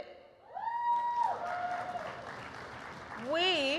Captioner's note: applause